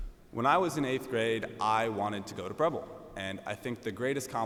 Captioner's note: none